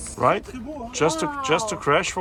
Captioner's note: onlooker speaks in foreign language